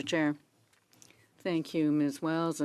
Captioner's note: speaking in French